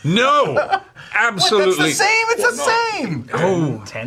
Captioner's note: chuckles